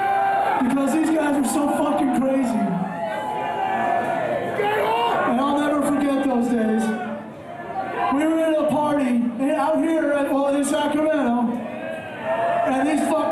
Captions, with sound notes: [crowd cheering] because these guys are so fucking crazy [loud chattering] I will never forget those days. We were at a party out here in Sacramento